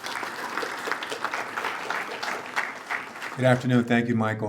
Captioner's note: attendees applaud